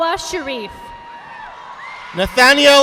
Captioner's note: audience applauding